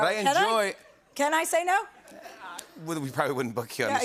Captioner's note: laughter